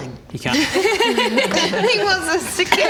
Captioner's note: laughs